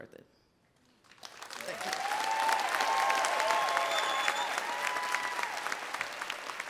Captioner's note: audience applauds